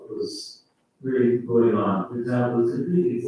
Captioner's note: faintly speaking